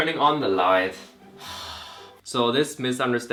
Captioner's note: sigh